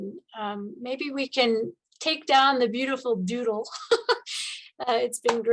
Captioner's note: laughs